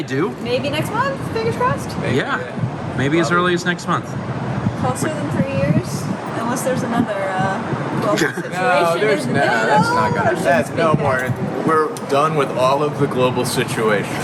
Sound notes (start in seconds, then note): 8.0 laughing